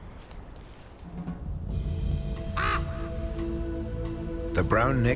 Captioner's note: light dramatic music; raven caws